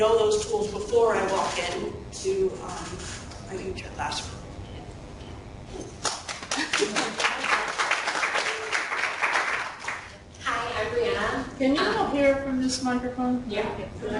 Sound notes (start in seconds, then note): 6.0 clapping